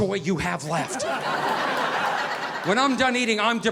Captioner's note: audience laughing